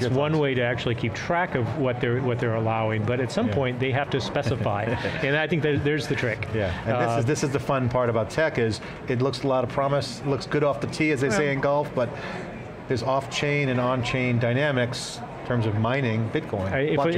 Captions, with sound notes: >> One way to actually keep track of what they're allowing, but at some point they have to specify. (chuckles) And I think there's the trick. >> This is the fun part about tech is it looks a lot of promise, looks good off the tee as they say in golf, but there's off-chain and on-chain dynamics, in terms of mining, Bitcoin.